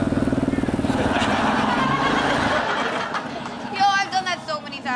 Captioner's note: all laugh